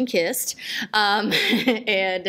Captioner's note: laughs